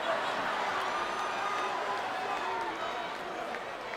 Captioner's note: crowd laughs